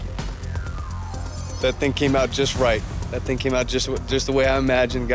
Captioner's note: none